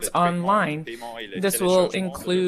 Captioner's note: speaking French